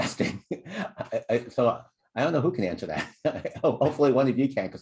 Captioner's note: laughter